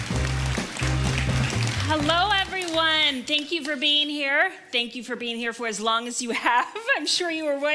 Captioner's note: applause